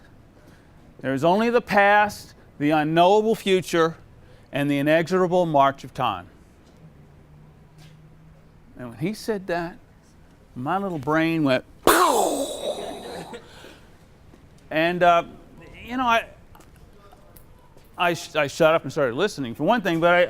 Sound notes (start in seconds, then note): 11.7 makes exploding noise; 12.8 crowd laughs